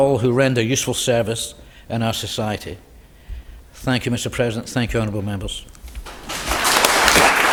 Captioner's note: applause